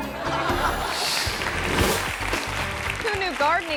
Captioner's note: audience laughing